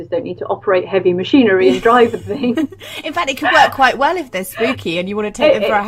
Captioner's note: laughs